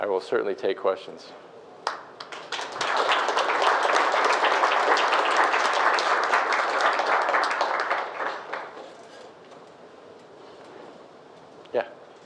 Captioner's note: applause